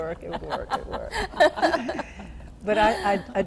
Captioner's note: laughter